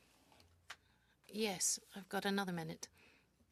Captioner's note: speaking French